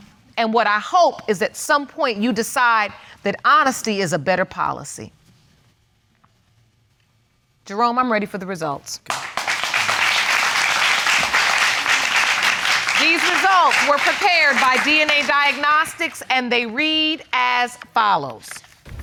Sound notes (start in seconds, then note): 9.1 audience applauding